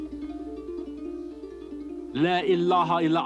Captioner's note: speaking arabic